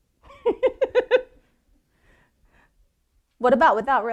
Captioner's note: laughing